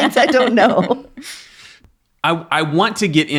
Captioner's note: laughing